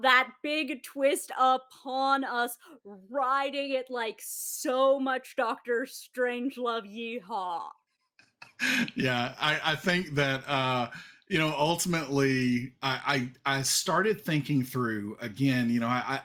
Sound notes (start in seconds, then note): 8.5 laughs